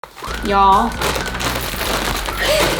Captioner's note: playful music; laughs